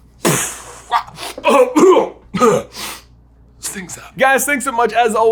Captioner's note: coughs; imitates explosion